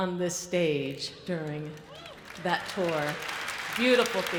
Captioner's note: audience applauds